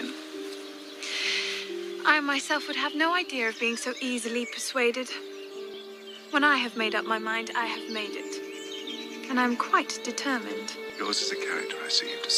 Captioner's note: inhale